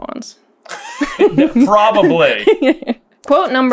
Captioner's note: laughter